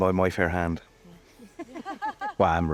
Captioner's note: laughing